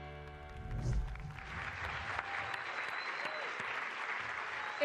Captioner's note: applause